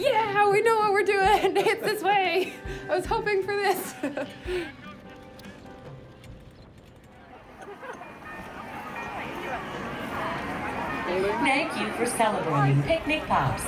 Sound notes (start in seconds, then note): 6.9 crowd chattering indistinctly; 7.5 bells ringing